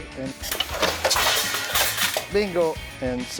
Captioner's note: cutting sound